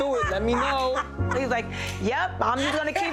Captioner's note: laughing